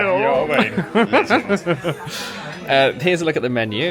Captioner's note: laughs